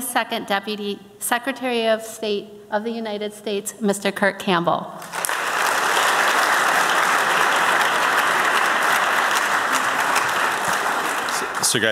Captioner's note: applause